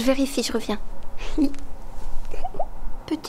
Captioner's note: laughs